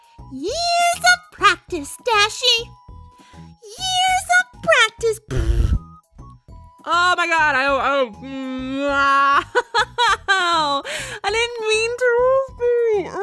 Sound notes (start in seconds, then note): 5.2 raspberries self; 9.4 laughs shamefully